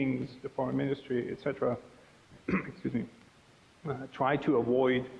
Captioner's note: clearing throat